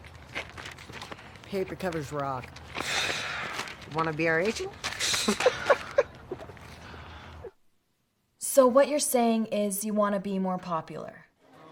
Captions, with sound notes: - Paper covers rock. (Eric heaves) You wanna to be our agent? (Eric chuckles) - So what you're saying is, you wanna be more popular?